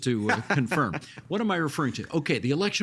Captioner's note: laughing